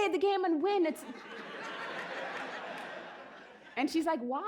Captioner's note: laughter